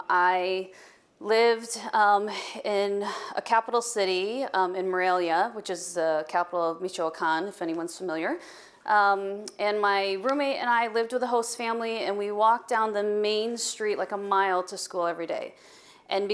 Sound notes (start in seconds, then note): none